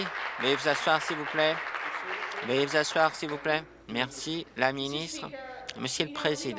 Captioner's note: applause